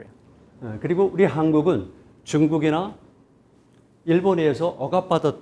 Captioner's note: speaking in Korean